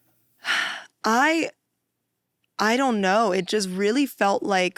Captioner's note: sighs